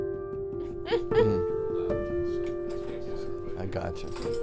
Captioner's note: giggles